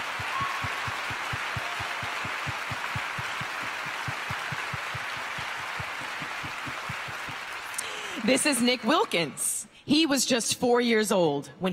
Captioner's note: cheers and applause